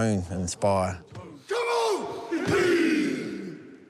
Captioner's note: all chant haka